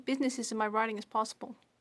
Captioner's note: speaking French